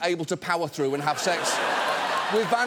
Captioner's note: studio audience laughs